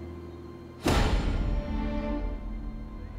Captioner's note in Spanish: Disparo